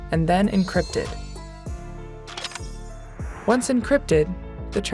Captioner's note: suspenseful music continues; transition clicks